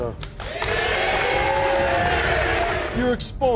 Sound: audience cheers

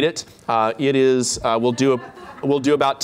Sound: laughter

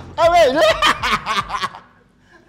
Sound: cackles

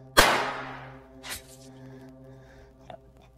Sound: gunshot firing

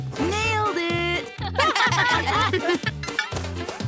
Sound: laughing

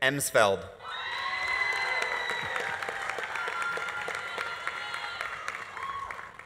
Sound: audience cheering; audience applauding

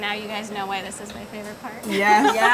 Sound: laughs

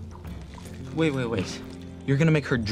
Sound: blood sloshing

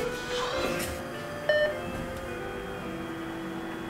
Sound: doors closing, elevator sound; beep signal

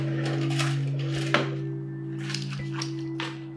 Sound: clattering

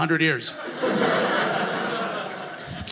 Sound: audience laughing

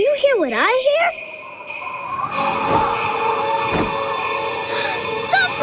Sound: bells ringing

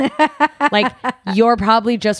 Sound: laughs

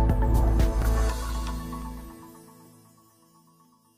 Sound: bright music; logo whooshing

